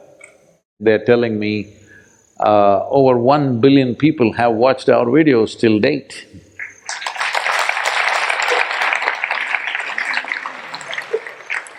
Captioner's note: applause